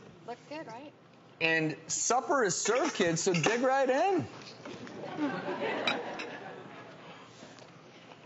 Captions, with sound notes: Looks good right? And supper is served kids, so dig right in. (crowd laughs)